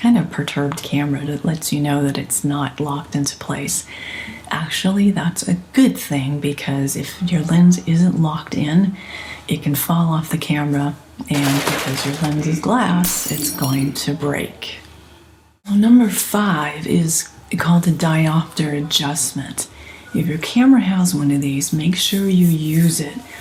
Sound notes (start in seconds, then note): 11.4 thud sound; 13.0 glass breaking